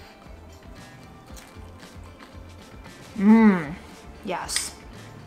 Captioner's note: crunching